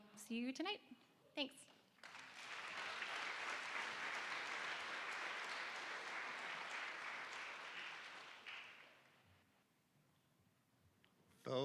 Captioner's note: applause